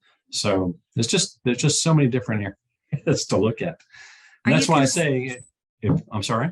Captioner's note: chuckles